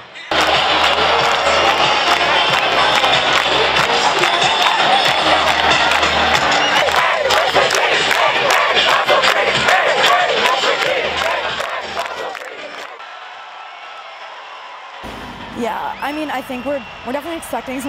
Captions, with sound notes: (crowd cheering) (protesters clapping) (protesters chanting) - Yeah, I mean I think we're definitely expecting